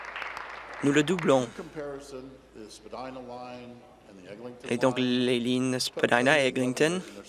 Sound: applause

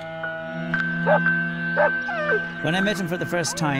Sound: dog barks

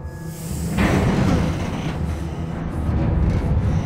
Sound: banging sound

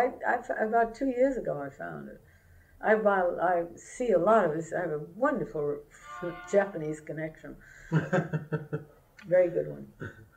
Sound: laughter

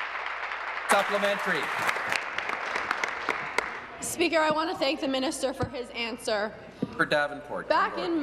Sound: applause

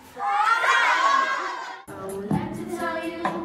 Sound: students screaming

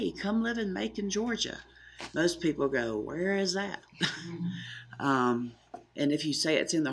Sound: laughing

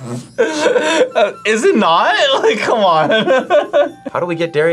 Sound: both laugh; laughs

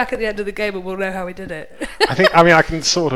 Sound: laughs

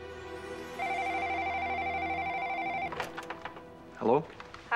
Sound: phone ringing

